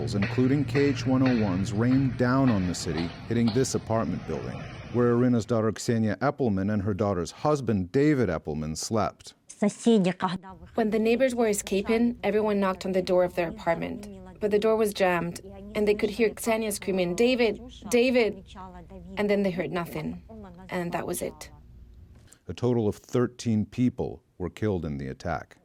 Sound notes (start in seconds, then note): 9.9 through translator